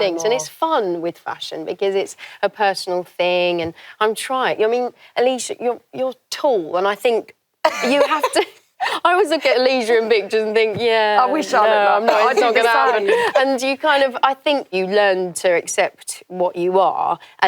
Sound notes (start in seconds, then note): 12.0 laughing